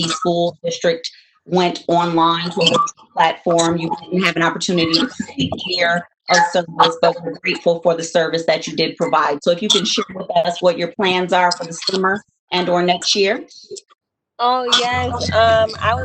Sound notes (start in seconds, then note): 6.6 voice distorting